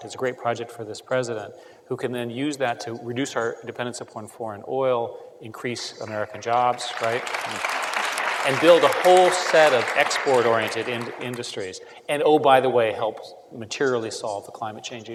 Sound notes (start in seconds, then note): 6.0 applause